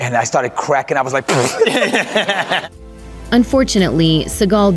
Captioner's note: stifled laughter